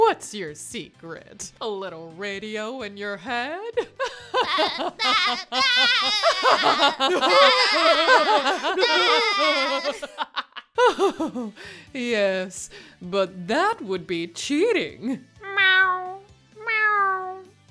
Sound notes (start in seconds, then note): 3.8 laughing vibrations; 4.1 chuckles; 16.6 meows